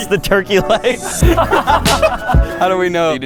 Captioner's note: friends laughing